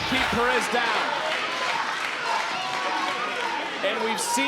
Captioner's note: audience chanting